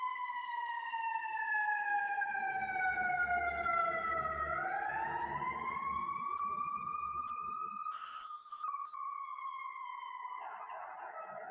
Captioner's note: sound of siren